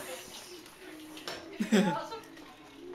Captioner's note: laughs